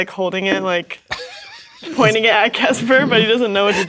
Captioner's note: players laughing